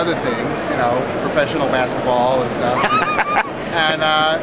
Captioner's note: laughs